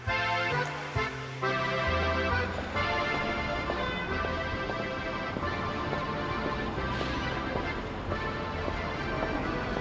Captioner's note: car horns and the sound of shoes